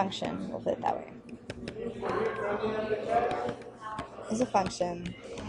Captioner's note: stylus taps